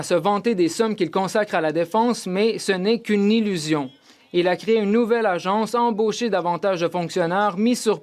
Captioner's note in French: voix de l'interprète